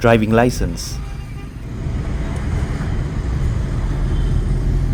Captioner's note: traffic noise